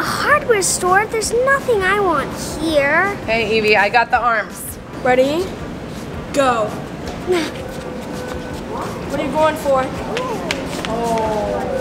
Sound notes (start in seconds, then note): 7.5 grunts